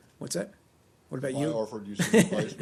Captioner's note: laughter